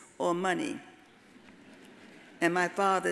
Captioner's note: audience laughs